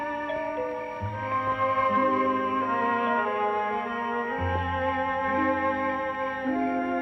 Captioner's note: doorbell